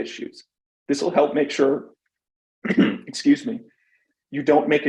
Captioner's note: clears throat